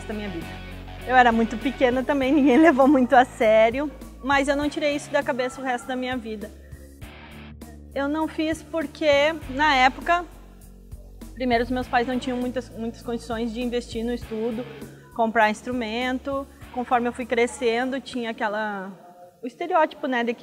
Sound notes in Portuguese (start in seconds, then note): 2.3 dando risada